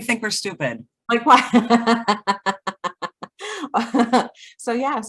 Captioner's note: both laughing